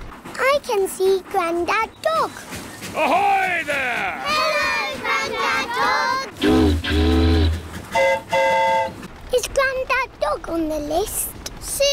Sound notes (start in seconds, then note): 7.9 boat horn honks; 7.9 train horn toots